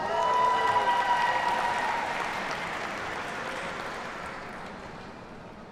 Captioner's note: audience cheers and applauds